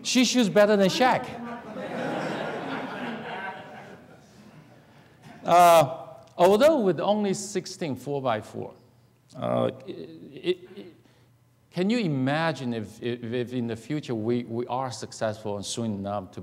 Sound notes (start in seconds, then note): 0.9 laughing